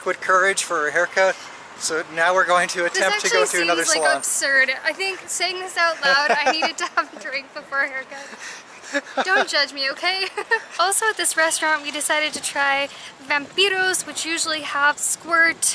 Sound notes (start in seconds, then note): 5.9 laughter